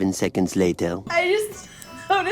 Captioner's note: laughing